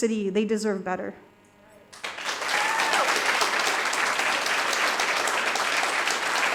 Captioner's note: audience applauding